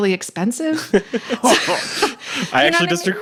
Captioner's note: laughing